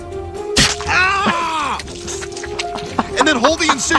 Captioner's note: Brian screams